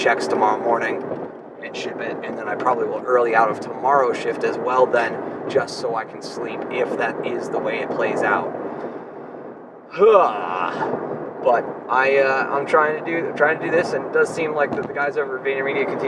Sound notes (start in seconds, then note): 9.9 groans